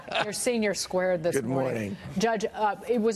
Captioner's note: laughter